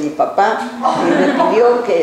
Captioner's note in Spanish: laughs